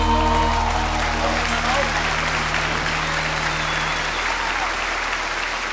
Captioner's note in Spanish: aplausos